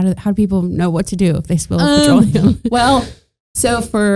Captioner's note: chuckling